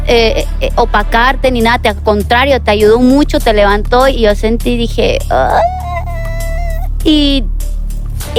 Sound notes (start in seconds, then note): 5.4 squeal